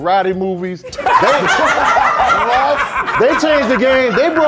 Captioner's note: laughing